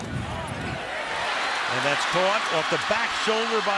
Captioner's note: cheering